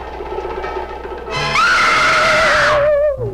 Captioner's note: Meg screaming; eerie mysterious music